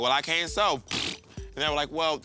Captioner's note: blows raspberry